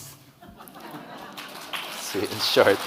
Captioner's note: audience laughing; audience clapping